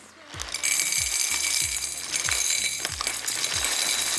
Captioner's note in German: Klingeln